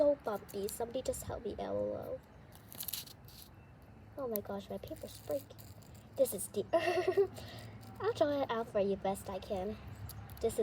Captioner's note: laughs